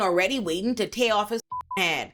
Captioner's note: beep